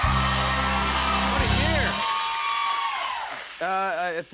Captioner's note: cheers and applause